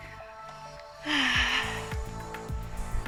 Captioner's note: sigh